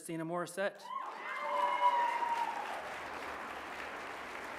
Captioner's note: applause